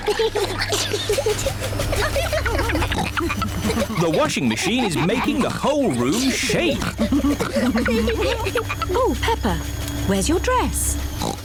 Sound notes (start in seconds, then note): 0.3 giggling; 2.5 rumbling; 11.1 oinks